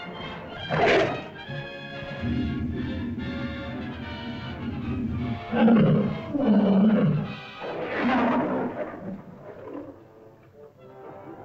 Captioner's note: suspenseful music; lizard growls